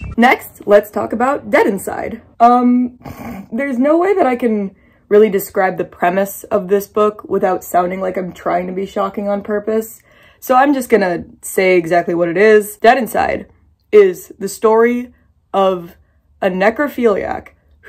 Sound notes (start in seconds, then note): 3.0 snickers